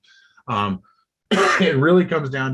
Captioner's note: coughs